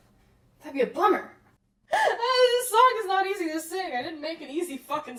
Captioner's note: laughing, out of breath